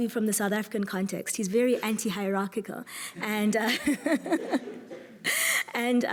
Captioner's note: laughs